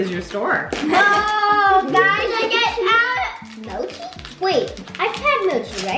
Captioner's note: mumbles